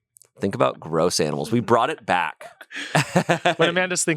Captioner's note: laughs